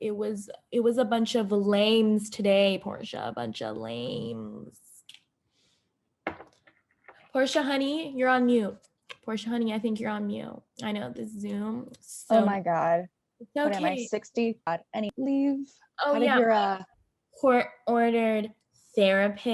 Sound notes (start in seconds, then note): 5.3 no sound